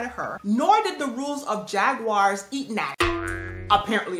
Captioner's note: boing